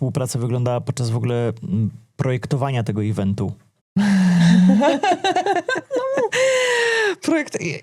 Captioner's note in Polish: śmiech